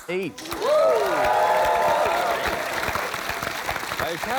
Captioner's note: cheering, applause